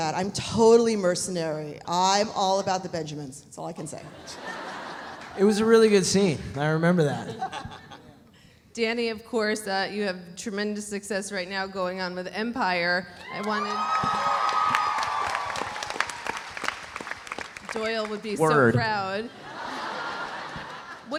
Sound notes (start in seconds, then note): 4.2 audience laughs; 13.2 audience cheering; 16.0 audience applauding; 19.2 audience laughs